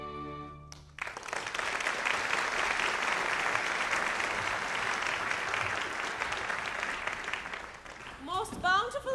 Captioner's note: applause